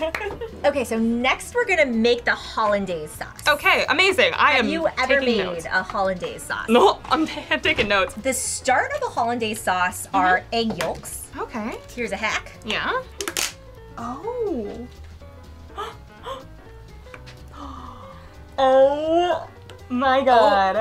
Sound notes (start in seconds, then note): 13.0 bottle crunching; 15.6 gasps